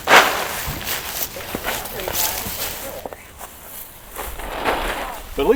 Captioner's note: shoveling Sounds